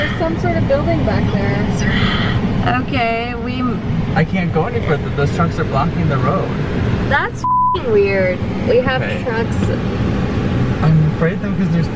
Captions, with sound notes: There's some sort of building back there. - OK, we... - I can't go any further. Those trucks are blocking the road. - That's (beep) weird, we have trucks... - I'm afraid, though,